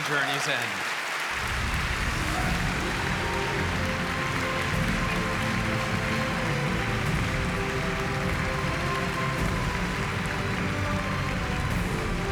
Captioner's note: applause